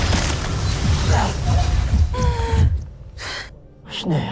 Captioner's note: powerful whoosh-crackle; sparkling whoosh; evil energy whoosh & crackle; weapon swooshes